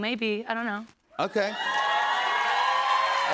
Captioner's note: cheers and applause